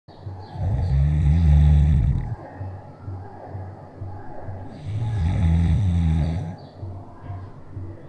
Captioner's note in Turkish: Horlama Ses Efekti